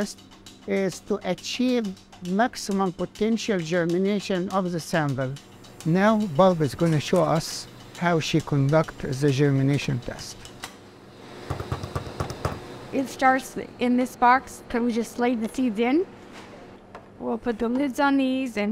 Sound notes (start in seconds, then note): 11.5 tapping on the surface